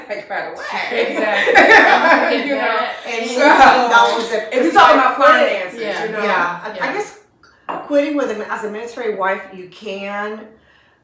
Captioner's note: laughter